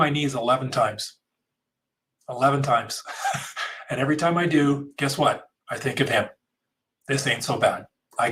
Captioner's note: laughs